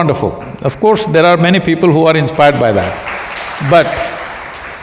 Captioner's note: applause